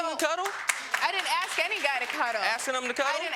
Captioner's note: audience clapping